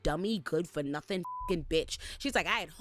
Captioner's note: beep